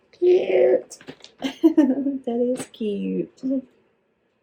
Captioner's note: laughs